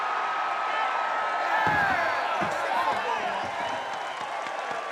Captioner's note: crowd cheering